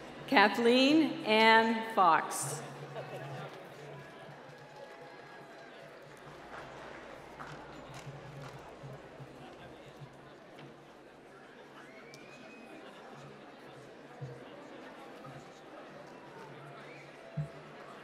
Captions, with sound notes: Kathleen Ann Fox. (applause)